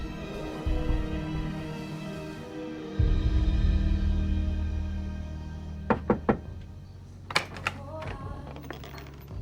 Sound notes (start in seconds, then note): 5.8 Kent knocking